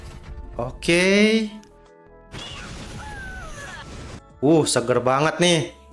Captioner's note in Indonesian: berteriak